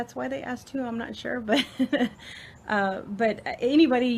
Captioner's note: laughs